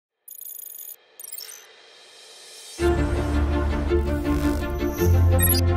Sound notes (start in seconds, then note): 1.2 beeping; 2.1 dramatic music